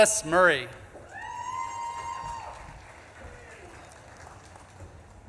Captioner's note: audience claps and cheers